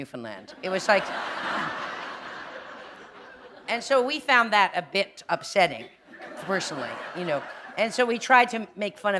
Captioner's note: laughter